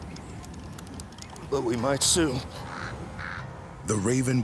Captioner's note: raven squawking